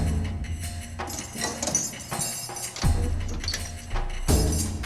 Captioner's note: chains rattle